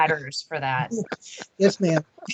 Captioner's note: laughing